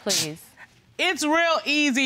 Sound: scoffs

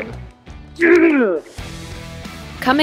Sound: upbeat rock music begins; player grunts

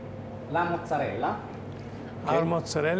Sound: speaking Italian

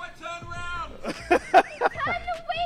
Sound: laughing

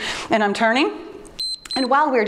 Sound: timer beeps

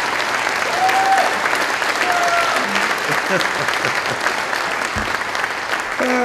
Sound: cheering, applause

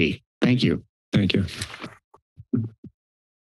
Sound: paper rustles; mic thumps

